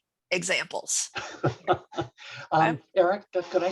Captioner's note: laughs